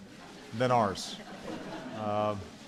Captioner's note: laughter